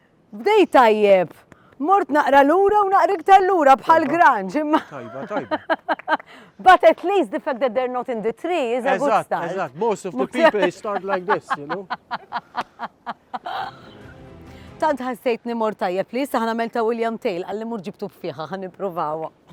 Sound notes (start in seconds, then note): 4.8 chuckles; 11.1 chuckles